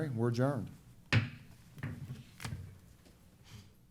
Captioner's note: hits gavel